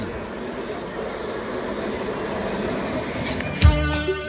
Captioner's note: train sound